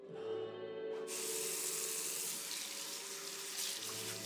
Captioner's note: water running